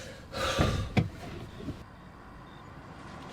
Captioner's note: Gary sighs